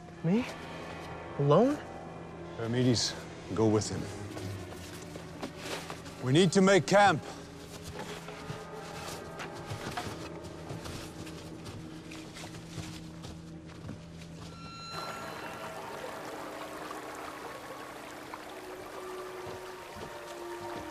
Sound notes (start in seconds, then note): 8.7 eerie music; 14.8 eerie music; 14.8 water trickling